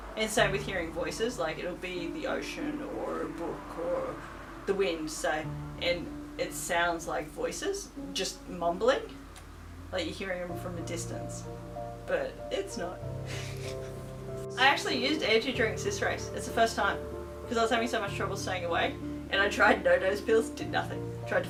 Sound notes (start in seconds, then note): 13.3 laughs